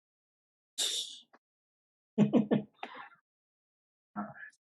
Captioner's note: laughs